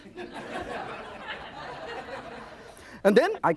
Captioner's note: audience laughs